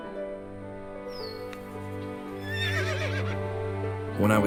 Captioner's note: horse whinnies